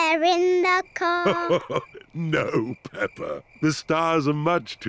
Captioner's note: chuckles